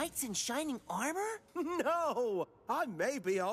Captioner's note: laughs